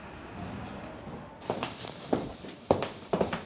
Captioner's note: footsteps